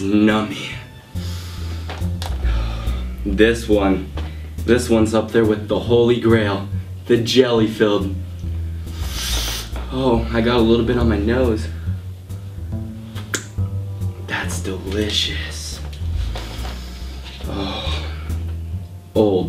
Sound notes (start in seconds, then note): 8.6 sniffs intensely